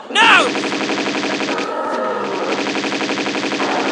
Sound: bratatatatatatatatatata

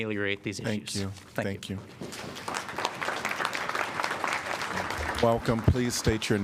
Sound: applause

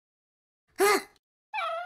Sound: Cinnamon Bun gasps

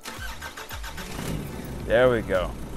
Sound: car starts

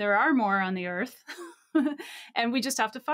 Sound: laughing

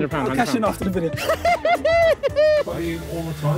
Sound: laughing

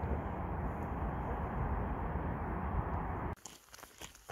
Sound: road sounds

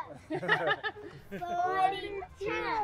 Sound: parents laugh

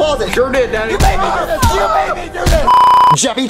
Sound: background screaming

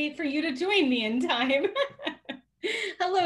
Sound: laughs

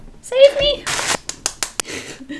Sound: tapping

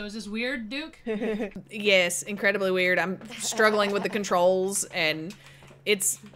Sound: laugh

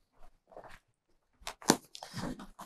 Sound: silence

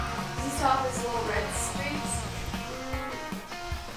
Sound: distant talking

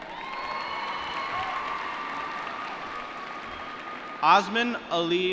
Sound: cheering

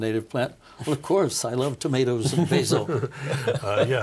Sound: laughing

